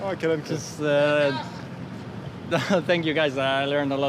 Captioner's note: man in distance shouts